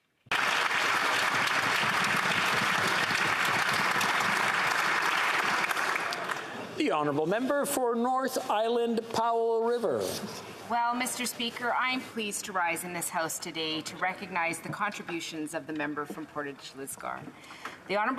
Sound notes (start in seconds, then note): 6.8 applause